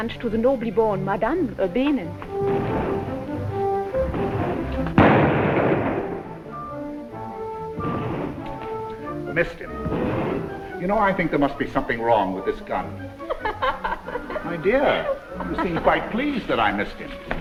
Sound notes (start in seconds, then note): 5.0 gunshot firing; 13.2 Olga laughs